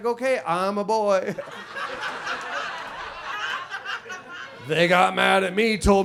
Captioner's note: audience laughs